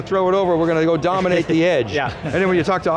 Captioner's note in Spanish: risas